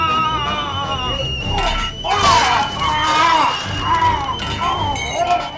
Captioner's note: cook screaming; intense music; kitchenware clanking